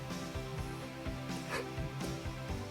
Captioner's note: gasp